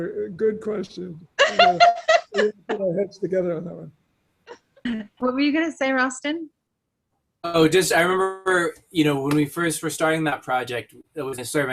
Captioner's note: laughing